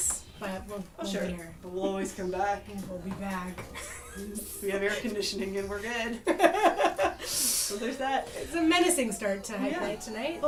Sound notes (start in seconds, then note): 3.7 laughs; 7.8 laughs; 8.4 laughter